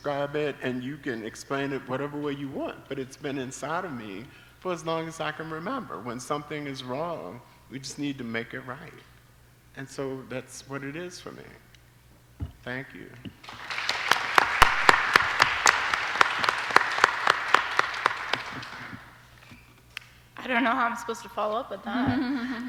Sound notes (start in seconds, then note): 18.0 applause